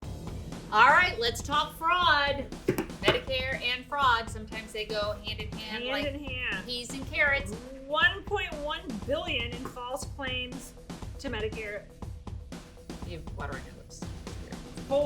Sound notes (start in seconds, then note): 0.0 upbeat music; 2.5 hands clomp on desk